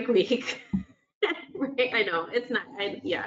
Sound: laughs

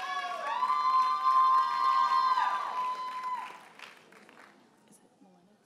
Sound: audience cheers and applauds

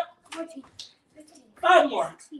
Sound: claps

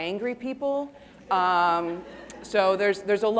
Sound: audience laughing

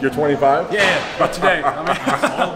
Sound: testosterone laugh

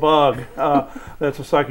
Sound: laughing

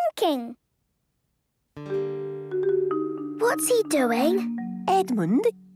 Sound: whispering

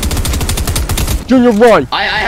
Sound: rapid gunfire

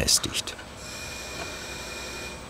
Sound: distant machine noise

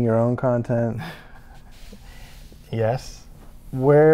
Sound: chuckling

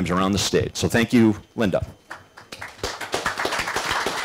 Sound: applause

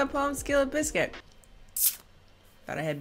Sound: sucks teeth

